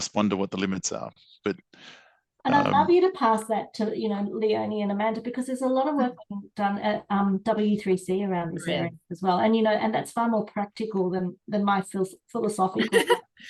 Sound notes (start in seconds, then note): 12.8 laughs